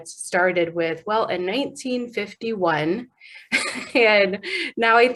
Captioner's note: laughing